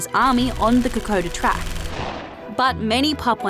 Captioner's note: gunshots